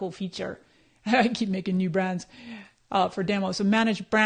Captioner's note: laughs